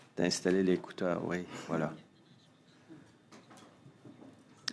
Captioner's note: speaking French